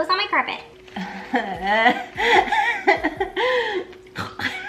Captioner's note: laughing quietly